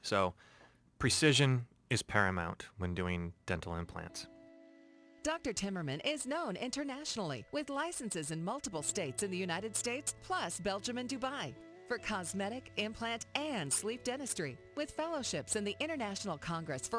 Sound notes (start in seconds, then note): 5.2 voiceover